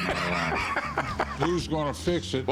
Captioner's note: laughs